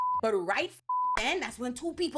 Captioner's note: beep